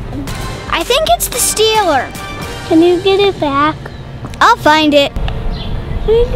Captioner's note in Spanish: melancólico